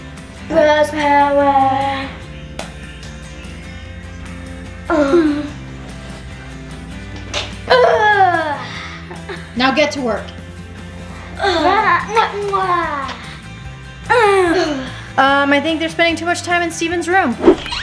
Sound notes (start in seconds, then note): 4.8 girls grunt; 11.5 girls grunt